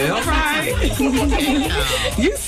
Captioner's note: laughing